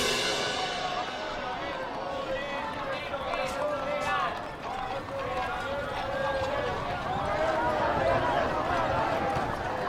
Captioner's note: roar of chatter